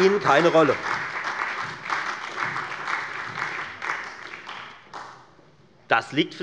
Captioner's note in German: Beifall bei der FDP, der SPD und der LINKEN